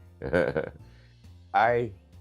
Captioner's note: man chuckling